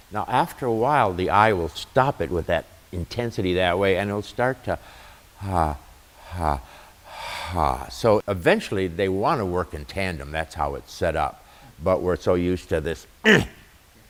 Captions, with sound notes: Now after a while, the I will stop it with that intensity that way, and it'll start to *exhales* So eventually, they want to work in tandem, that's how it's set up But we're so used to this 'EEHH'